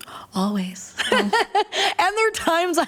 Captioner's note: laughter